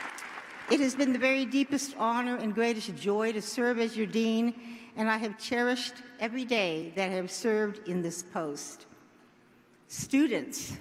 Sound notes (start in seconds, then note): 0.0 applause